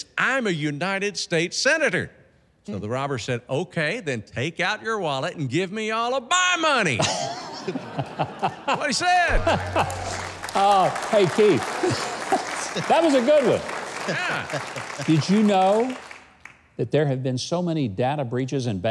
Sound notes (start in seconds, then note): 7.1 laughs; 9.2 claps